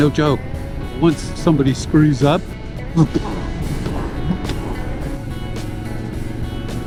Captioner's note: wah-thunk